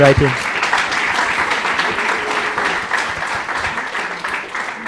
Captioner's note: applause